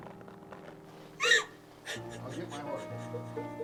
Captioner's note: Nellie sobs